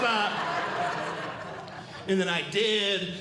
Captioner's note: audience Laughing